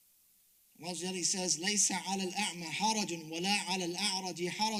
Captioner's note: speaks Arabic